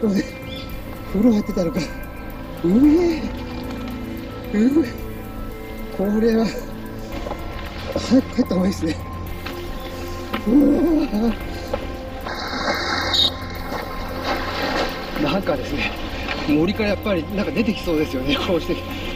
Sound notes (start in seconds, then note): 13.0 whistle sound to keep out brown bears